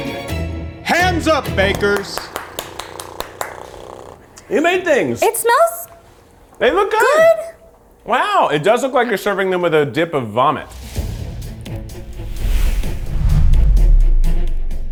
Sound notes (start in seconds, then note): 1.4 claps; 10.7 dramatic music